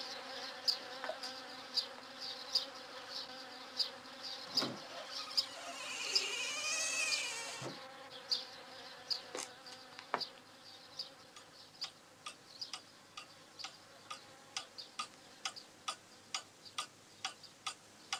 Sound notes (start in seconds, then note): 4.6 creak; 12.8 tik-tock